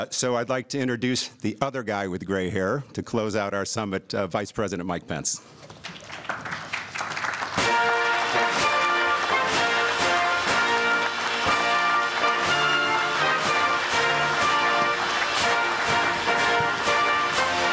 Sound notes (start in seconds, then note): 5.5 applause; 7.6 presidential music